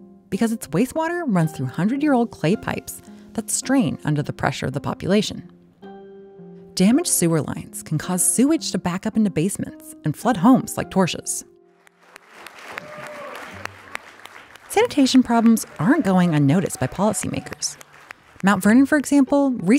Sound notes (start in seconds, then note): 11.8 clapping; 12.1 cheering